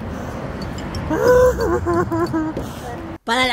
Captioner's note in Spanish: gritos de desesperación